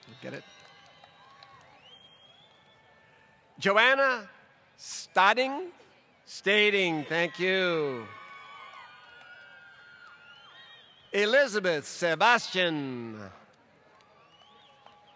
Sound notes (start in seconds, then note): 3.5 applause